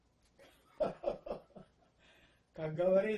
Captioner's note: laughing